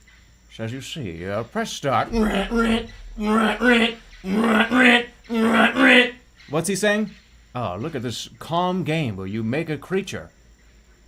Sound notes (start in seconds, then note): 2.1 imitates harsh mechanical slicing